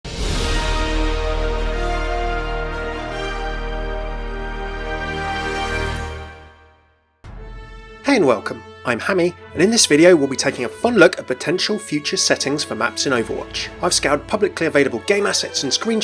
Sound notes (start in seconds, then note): 0.7 inspirational music; 8.2 voiceover